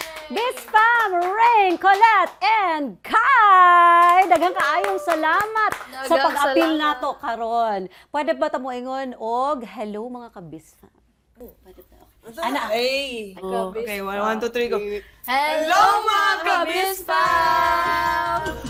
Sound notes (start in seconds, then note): 3.8 cheering, clapping